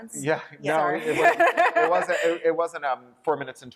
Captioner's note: laughter